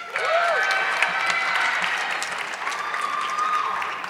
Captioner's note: audience clapping